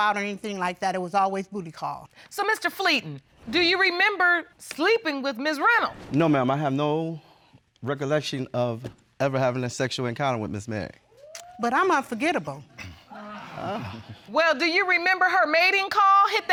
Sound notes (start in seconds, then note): 12.8 audience gasps